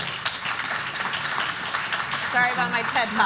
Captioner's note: applause